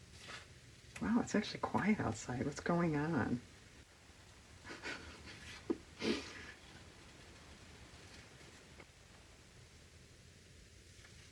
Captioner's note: laughs